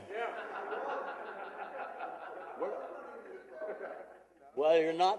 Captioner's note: laughing